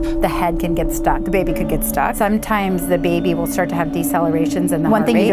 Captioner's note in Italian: none